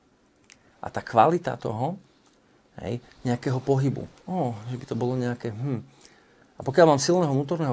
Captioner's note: hums